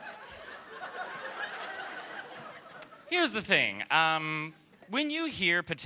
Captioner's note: laughter